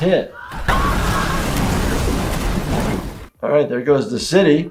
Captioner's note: buildings crashes